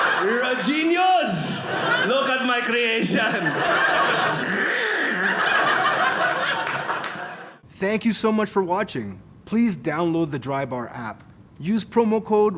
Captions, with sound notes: You're a genius. Look at my creation. (gagging) (audience laughing)